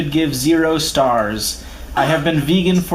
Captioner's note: laughs in the background